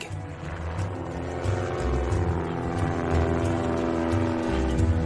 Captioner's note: plane engine whirs